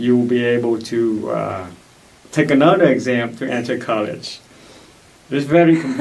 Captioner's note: laughs